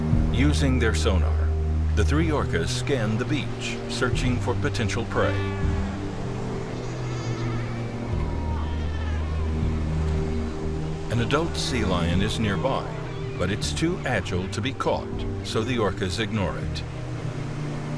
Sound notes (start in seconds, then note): 5.7 waves crash